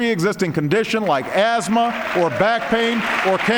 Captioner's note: applause